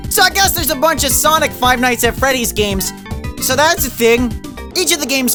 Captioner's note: none